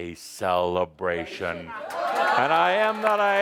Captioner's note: audience applause